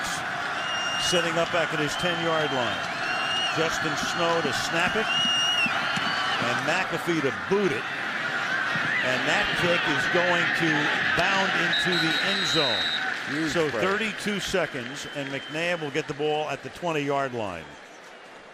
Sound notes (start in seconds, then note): 11.6 whistle